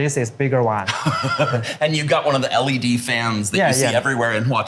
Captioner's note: chuckles